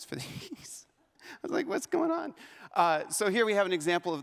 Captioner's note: laughs